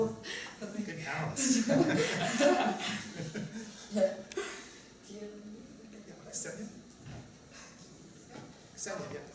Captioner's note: laughter